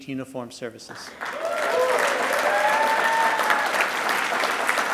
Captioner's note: audience applauding